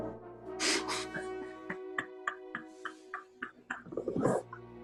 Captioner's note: chuckling